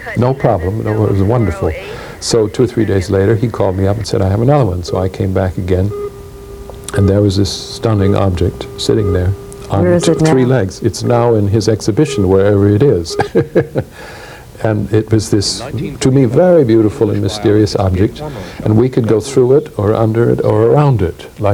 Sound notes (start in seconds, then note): 13.0 laughs